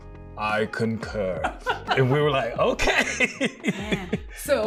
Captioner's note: laughing